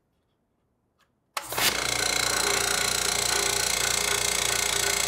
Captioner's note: compressor rasping